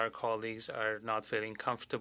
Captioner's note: speaking French